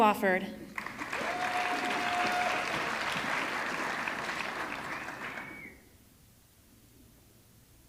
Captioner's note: audience clapping; audience cheering